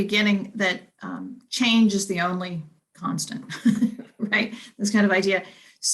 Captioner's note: chuckles